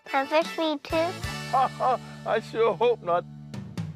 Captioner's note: laughs